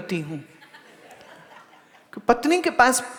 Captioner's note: audience laughs